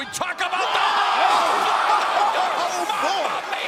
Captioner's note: crowd cheering